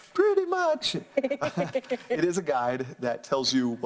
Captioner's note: laugh; laughs